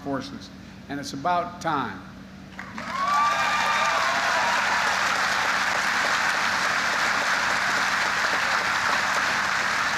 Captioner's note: applause